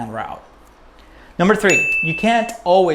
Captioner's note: bell